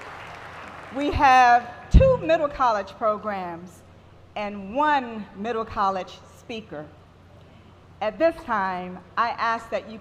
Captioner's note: applause